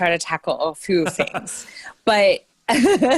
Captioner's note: laughing